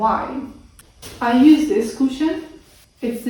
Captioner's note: cushion rustles